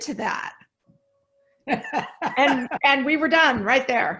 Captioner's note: laughs